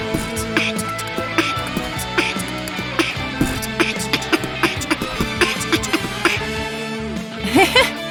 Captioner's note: beatboxing